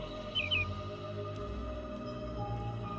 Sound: animals gibbering

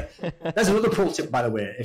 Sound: laughs

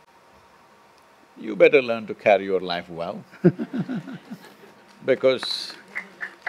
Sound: laughter/Applause

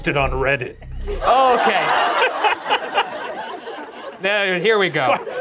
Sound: audience laughing

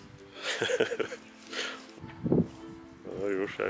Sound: laughs

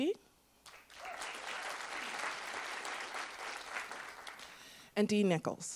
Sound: attendees applauding

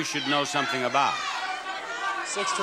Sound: audience shouts incoherently

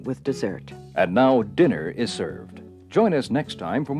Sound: voiceover

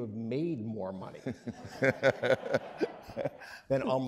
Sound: laughing

